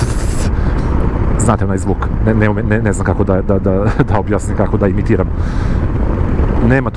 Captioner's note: snort